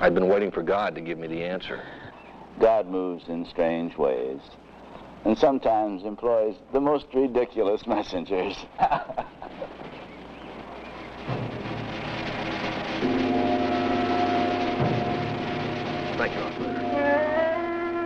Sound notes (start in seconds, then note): 8.4 father laughs; 11.6 ominous music